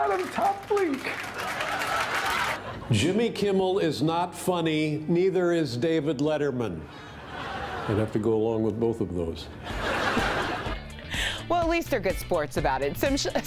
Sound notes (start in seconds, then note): 2.1 laughter